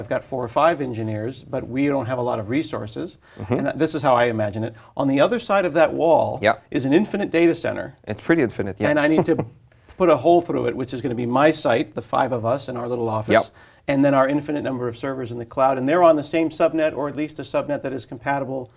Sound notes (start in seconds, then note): 8.9 laugh